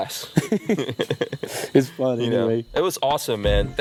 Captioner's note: laughter